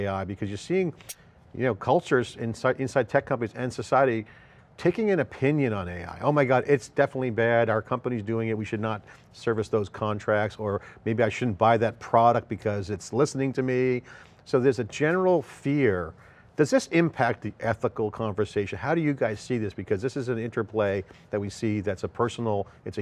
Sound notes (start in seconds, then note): none